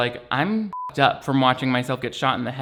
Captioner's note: beeps